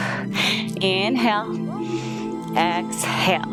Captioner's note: exhales; inhales